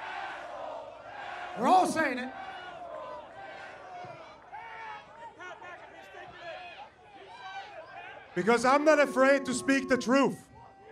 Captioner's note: crowd chanting